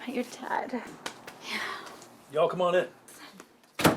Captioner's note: sighs